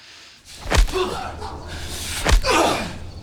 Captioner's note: punches thudding; Nazi groaning